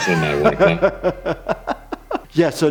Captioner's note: laughing